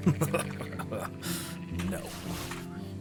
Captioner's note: laughter